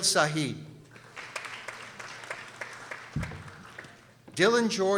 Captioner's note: people applauding